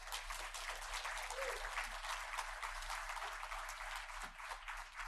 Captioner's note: audience applauding